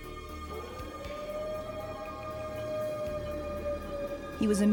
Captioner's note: siren wailing